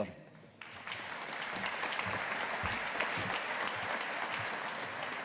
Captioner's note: audience applauding